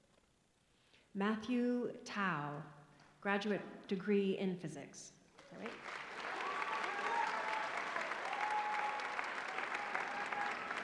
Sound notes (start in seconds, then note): 5.6 cheering